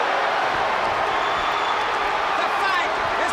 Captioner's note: crowd cheering